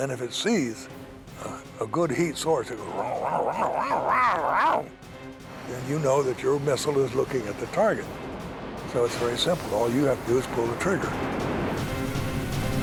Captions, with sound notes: Then, if it sees a good heat source-- [growling] Then, you know that your missile is looking at the target. So it's very simple. All you have to do is pull the trigger.